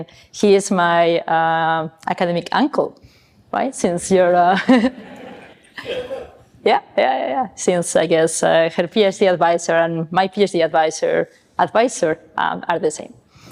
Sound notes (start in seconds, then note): 4.7 chuckles; 4.8 audience laughing